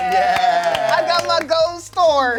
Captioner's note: cast claps